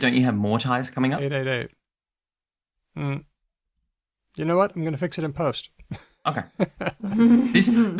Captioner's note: laughs